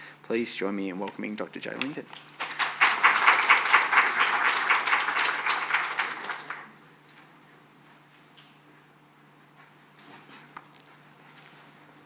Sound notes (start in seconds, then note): 2.3 audience clapping